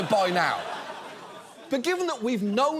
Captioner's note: audience laughs